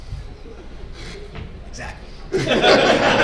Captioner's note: laughter